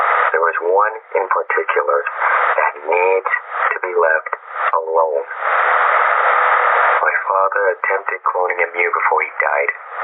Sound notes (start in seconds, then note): none